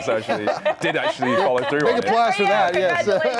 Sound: laughter

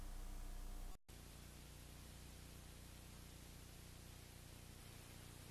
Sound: VHS static

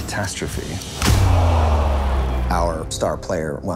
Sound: crowd groans

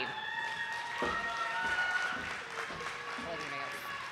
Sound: audience applauding

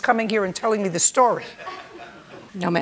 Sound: light laughter

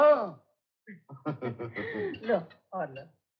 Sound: laughing

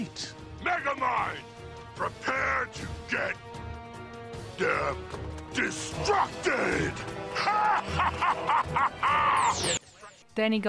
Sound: laugh

